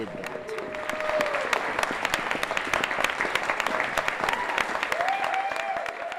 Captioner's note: applause; cheering